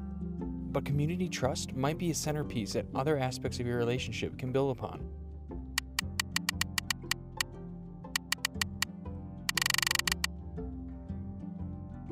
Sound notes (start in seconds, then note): 6.6 clicking